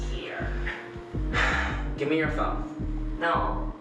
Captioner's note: sighs